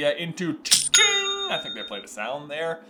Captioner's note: cha-ching sound effect